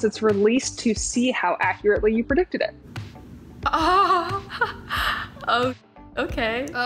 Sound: chuckles

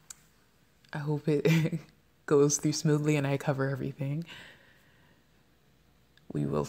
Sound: laughs

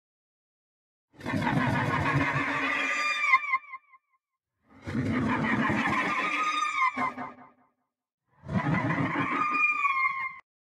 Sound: alien screech

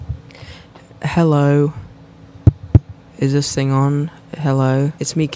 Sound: taps microphone

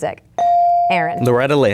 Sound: bell dinging

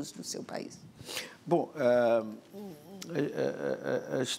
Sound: speaking portuguese

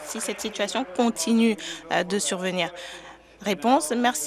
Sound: applause

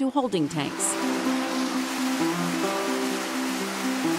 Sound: water running

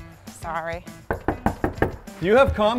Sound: knocking

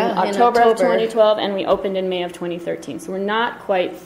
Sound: voiceover

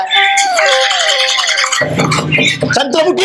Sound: door knocks

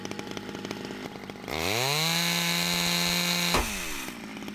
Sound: chainsaw Revving & Buzzing

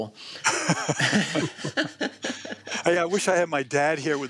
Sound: laughter

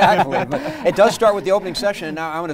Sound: laughing

